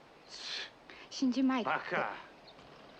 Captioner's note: speaking japanese